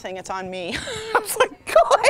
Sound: laughing

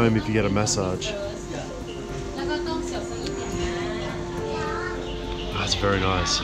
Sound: people talking in foreign language

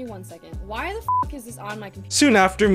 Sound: beep

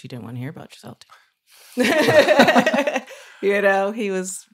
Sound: laughing

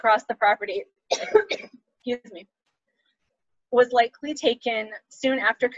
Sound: coughs

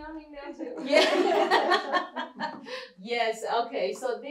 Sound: laughter

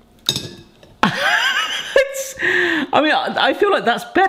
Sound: laughs

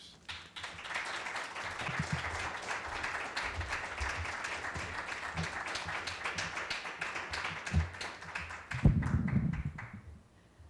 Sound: applause

